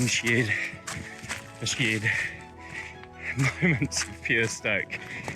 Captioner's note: panting